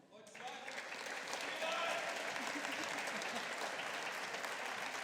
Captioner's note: audience applauding